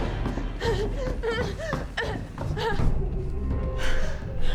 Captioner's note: Claire gasping